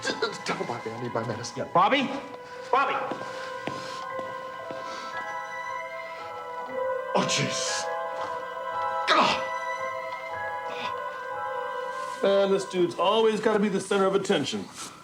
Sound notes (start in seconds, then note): 4.6 Richard breathing heavily; 9.0 groans